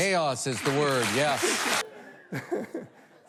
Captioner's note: applause